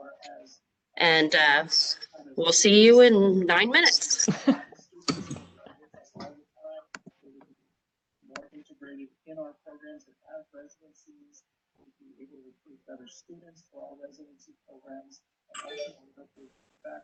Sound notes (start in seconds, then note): 4.2 laughter